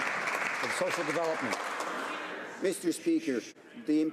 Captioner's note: some Applause